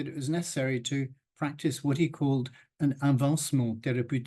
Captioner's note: speaks in French